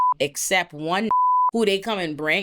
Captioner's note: beep